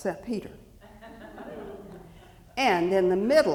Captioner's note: audience chuckling